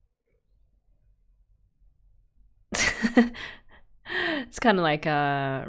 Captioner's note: laughs